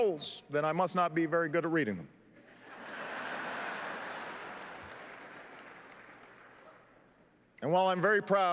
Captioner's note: laughter